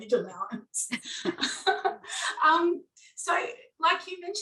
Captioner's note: laughing